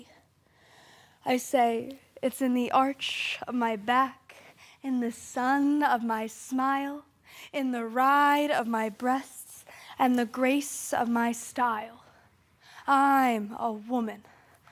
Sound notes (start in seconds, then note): 0.0 soft breathing; 12.0 soft breathing